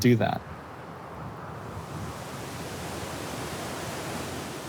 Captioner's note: waves crash